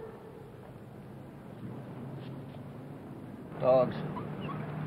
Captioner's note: howling